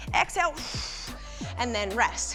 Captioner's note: breathes out